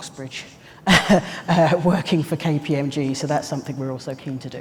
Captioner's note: laughs